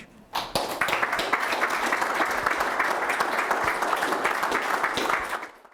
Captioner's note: audience applause